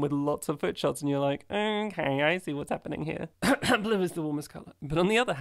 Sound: coughs

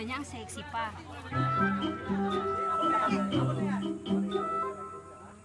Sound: men clamor

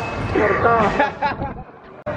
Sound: laughs

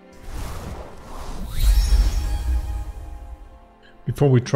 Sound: screen whooshing; tranquil music

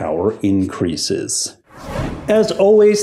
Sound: air whooshing

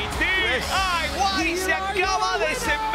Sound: applause

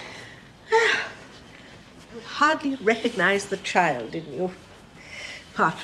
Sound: sighs

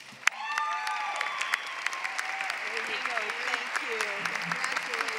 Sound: applause

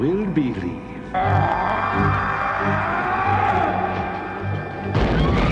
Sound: monster groans; Addie screams

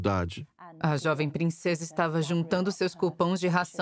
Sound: voiceover

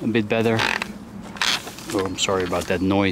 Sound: camera creeks

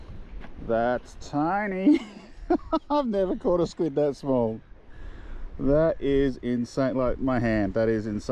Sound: laughs

